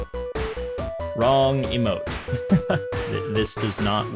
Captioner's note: laughter